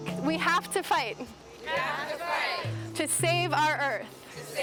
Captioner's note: crowd